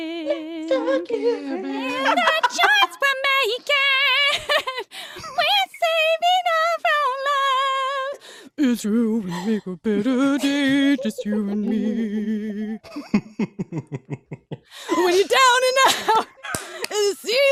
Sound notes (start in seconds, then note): 2.9 high pitched voice; 8.8 low voice